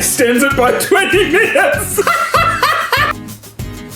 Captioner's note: laughs; upbeat pop music